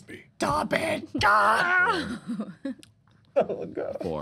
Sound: screaming

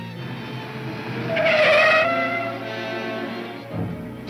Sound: tires squealing

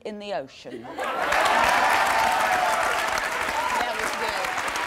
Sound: audience laughs, applauds

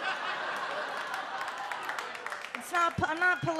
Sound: audience laughs and claps

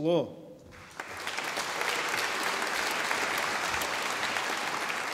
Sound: audience applauding

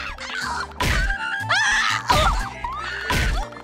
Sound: screaming

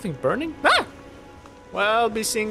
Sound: surprised shriek

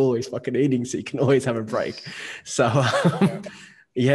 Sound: laughing

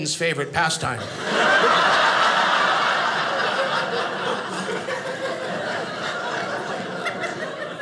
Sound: audience laughing

